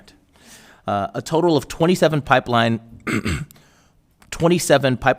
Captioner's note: coughs